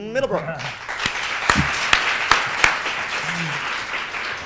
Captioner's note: audience applauds